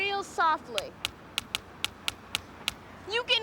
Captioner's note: rhythmic tapping